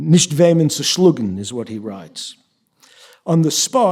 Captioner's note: yiddish